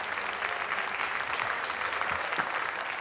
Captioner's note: applause